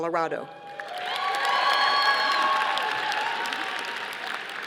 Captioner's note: audience applauding